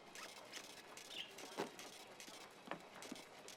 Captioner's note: birds chirping